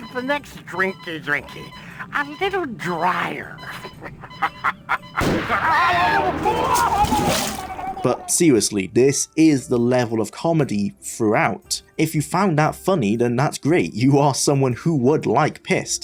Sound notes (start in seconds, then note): 5.1 ship Crashes